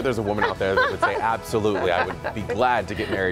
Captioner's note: laughter